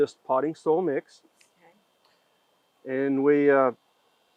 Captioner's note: interviewer speaking faintly